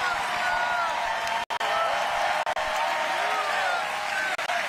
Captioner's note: crowd booing; crowd cheering